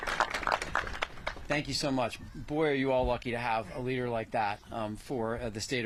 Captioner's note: applause